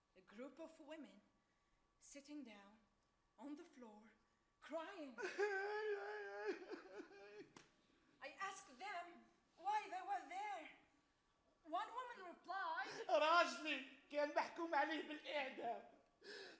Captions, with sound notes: a group of women sitting down on the floor, crying. [man cries] I ask them why they were there. One woman replied, [man speaks Arabic]